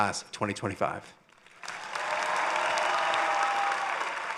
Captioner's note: cheering